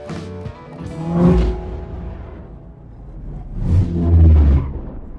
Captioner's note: car vrooms